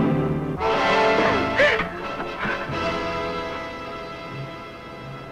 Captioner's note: suspenseful music; Mrs. Ellis gasping